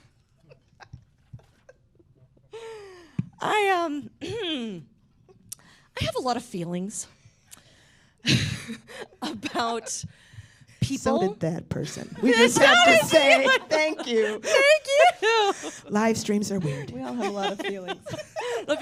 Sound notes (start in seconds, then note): 4.8 ahem; 8.5 laughs